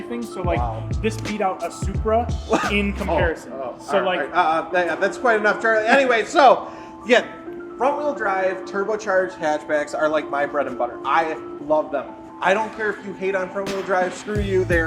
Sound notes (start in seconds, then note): 2.2 scoffs